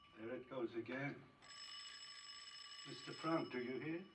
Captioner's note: ringing Continues